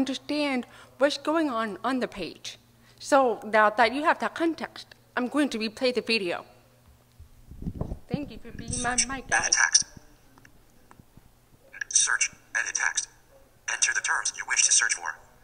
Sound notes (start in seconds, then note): 8.6 voiceover